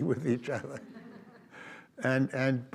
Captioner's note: audience laughs